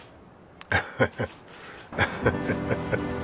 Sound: laughing

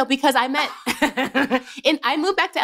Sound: laughter

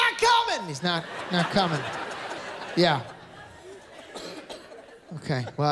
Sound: laughter

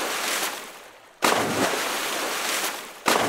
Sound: splash

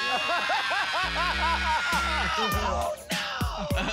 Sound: shouts

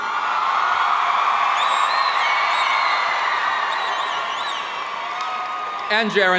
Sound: audience cheering and applauding

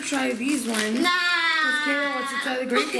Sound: yelling

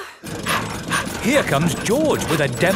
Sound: daddy pig panting

